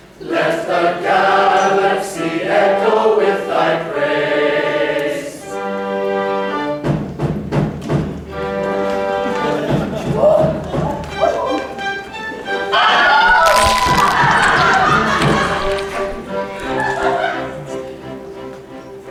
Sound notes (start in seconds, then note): 9.9 Noises of distress from the chosen FOOD BUG; 12.7 Wilhelm scream!; 13.3 sounds of crunching meat and exoskeleton